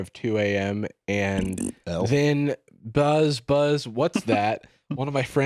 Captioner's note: blows raspberry